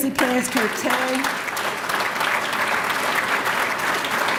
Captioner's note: applause